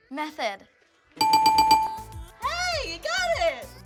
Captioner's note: bell dinging